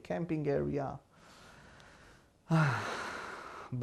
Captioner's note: sighing